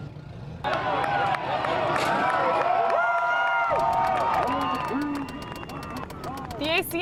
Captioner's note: applause and cheering